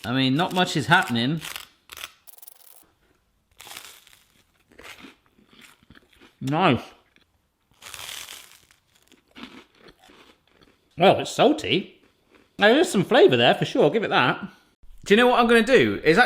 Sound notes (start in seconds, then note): 3.5 crunching on toast; 7.6 crunching on toast